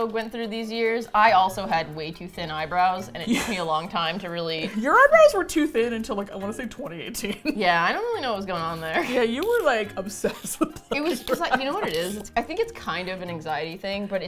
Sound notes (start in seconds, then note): 7.2 laughs; 10.0 laughs